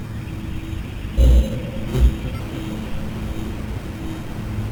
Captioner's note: logo buzzing still